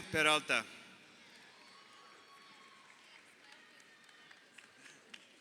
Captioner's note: crowd cheering